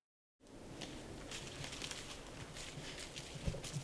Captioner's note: leaves crunch with footsteps